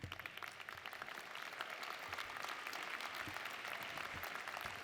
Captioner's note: audience applauding